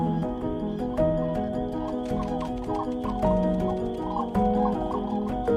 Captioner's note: cranes calling